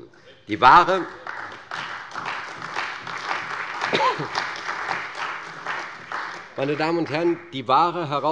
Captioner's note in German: Beifall bei der CDU und dem BÜNDNIS 90/DIE GRÜNEN